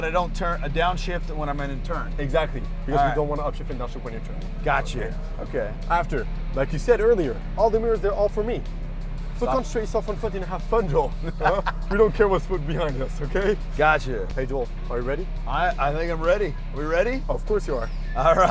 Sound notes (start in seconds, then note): 11.2 laughter